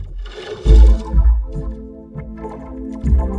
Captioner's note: boink!; ominous music plays